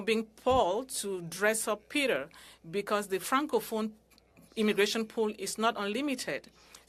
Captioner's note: speaking french